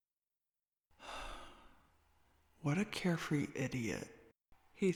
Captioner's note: sigh